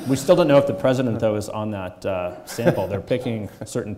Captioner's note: chuckles